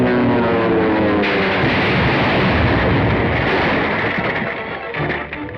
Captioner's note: explosion; dramatic music